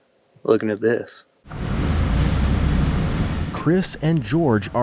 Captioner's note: machinery rumbling